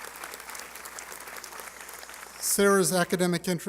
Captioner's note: applause